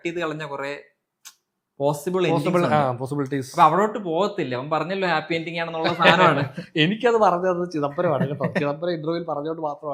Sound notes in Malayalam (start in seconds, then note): 5.9 പൊട്ടിച്ചിരി